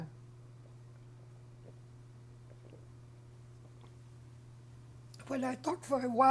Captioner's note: drinking